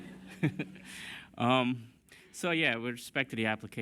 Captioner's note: laughter